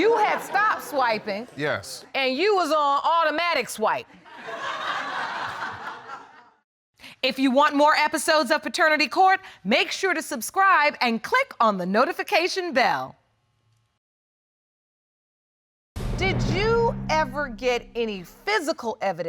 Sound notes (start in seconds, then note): 4.2 audience laughing